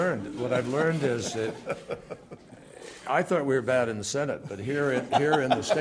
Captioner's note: laughter